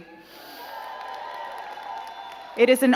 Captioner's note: crowd cheering and clapping